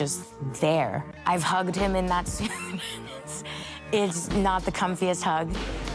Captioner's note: laughs